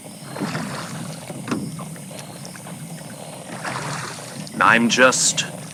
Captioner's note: Alastor rowing boat again fx